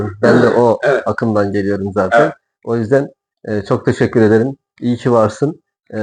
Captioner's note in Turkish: boğazını temizler